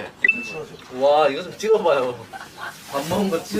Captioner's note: laughs